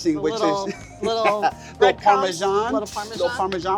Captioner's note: laughs